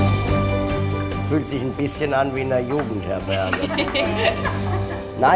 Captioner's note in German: lachen